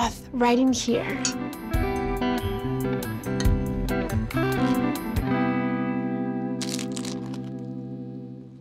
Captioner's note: taquito crunches